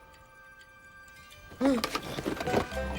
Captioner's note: gasps